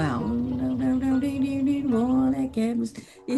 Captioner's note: vocalizing